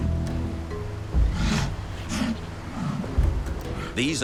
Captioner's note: sea lion grunting